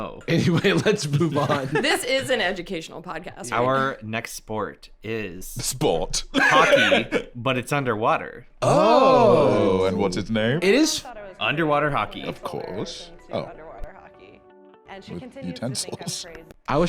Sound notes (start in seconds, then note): 6.3 laughing